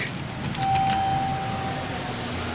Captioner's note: elevator Chimes